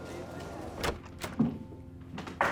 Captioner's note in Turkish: Kapı açılma sesi